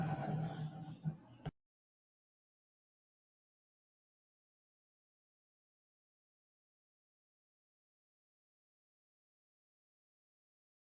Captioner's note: silence